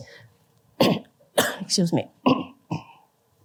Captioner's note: coughs